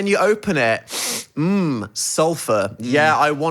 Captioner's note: sniffs